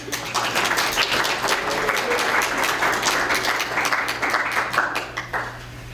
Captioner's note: applause